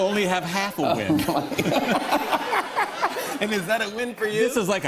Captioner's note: laughter